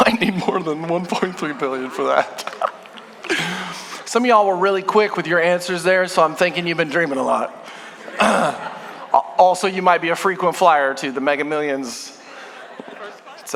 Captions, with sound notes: - Might need more than 1.3 billion for that. Some of y'all were really quick with your answers there, so I'm thinking you've been dreaming a lot. (congregation laughing) Also, you might be a frequent flyer to the Mega Millions.